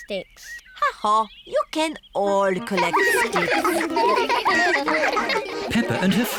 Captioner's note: all giggling